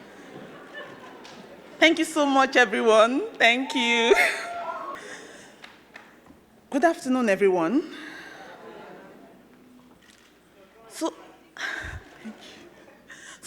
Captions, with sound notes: - Thank you so much everyone. Thank you. (crowd cheering) - Good afternoon everyone. So, thank you (laughs)